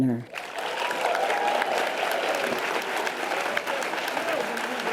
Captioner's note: audience applause and cheers